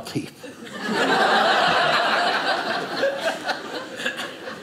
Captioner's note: audience laughing